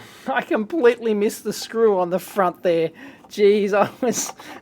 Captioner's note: laughing